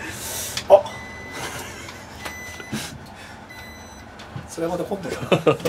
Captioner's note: beeping sound